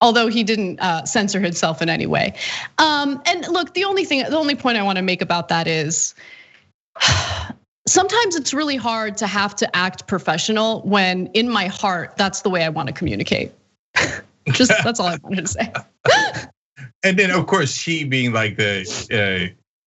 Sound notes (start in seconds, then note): 14.4 laugh